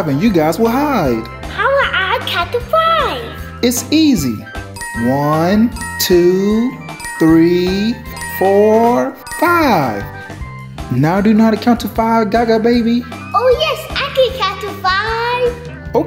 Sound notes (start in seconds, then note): 4.8 bell dinging